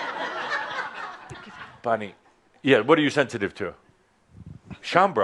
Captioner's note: laughter